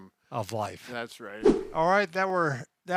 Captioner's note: air whooshes